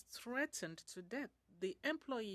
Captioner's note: speaking French